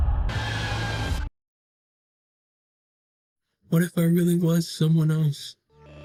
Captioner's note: screaming